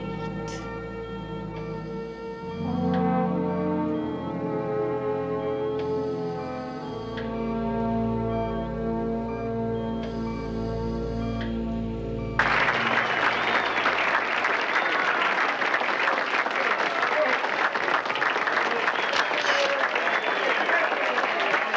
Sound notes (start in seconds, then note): 12.4 applause and cheering